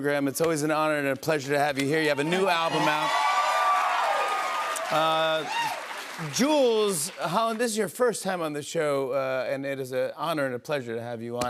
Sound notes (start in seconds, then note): 2.0 cheers and applause